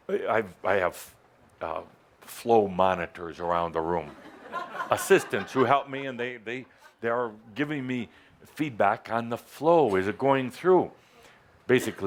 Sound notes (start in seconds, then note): 4.0 laughter